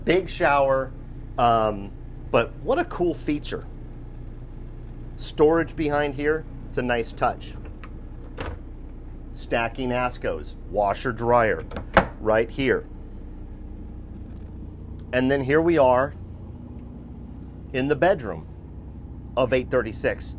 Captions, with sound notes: big shower but what a cool feature. Storage behind here, it's a nice touch. (cupboards opening) Stacking Askos, washer-dryer (cupboards closing) right here. And then here we are in the bedroom of 836.